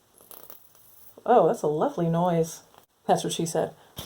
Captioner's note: gloss spatter noise; sarcastically